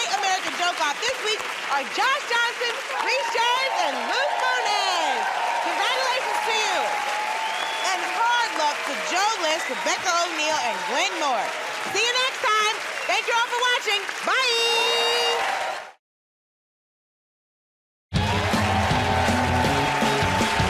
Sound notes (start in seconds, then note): 6.1 cheering and applause; 7.4 whistling